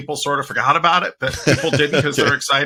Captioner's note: laughing